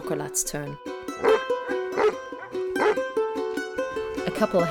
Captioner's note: dog barking